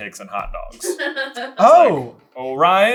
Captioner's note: laughing